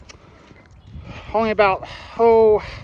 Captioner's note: none